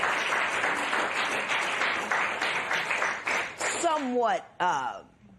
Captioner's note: applause